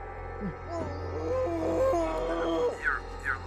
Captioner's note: Kenny screams